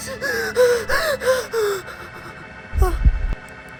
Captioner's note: hyperventilating